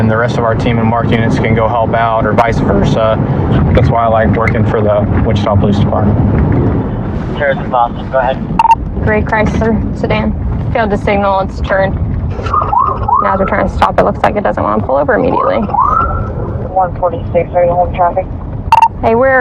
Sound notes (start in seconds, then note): 12.3 pololicice sirens